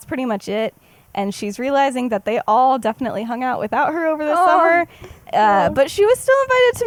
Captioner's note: awh